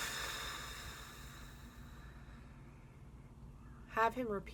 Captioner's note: breath